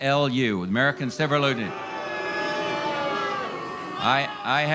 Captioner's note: crowd boos